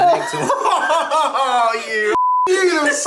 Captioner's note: they laugh